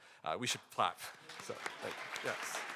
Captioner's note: audience applauding